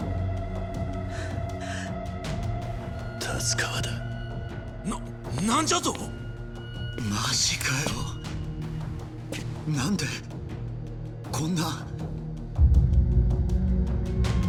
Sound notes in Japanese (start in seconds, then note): 1.0 荒い息